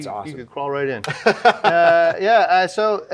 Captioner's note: laughing